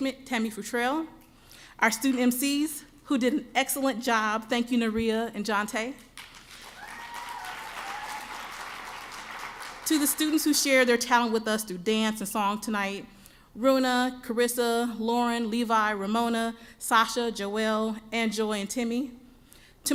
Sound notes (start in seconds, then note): 6.5 cheering